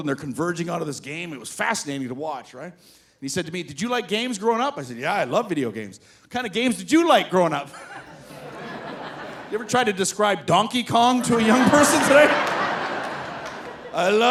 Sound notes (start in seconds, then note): 7.7 audience laughing; 7.8 laughs; 11.0 audience laughing